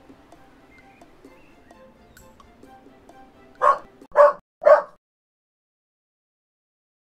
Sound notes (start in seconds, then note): 4.6 dog barks